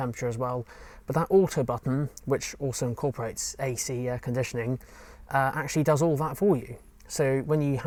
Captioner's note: air conditioning